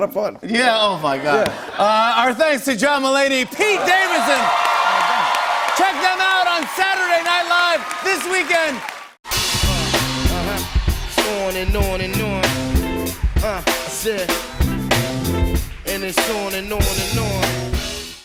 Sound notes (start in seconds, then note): 4.3 cheers and applause